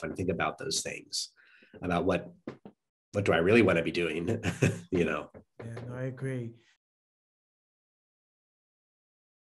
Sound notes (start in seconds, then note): 4.3 chuckling